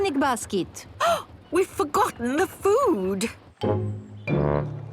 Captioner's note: gasps